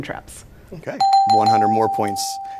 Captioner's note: dings